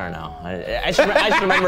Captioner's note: laughing